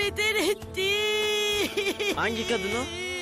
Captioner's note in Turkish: Ağlama sesi